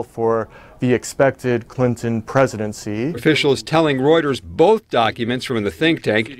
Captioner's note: voiceover